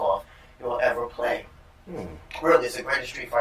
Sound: sounds of agreement

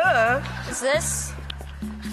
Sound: laughing

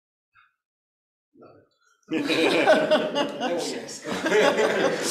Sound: everyone laughing

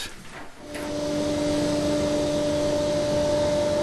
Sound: machine whirrs

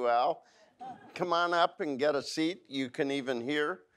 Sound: audience laughs

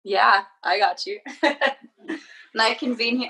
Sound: laughing loudly

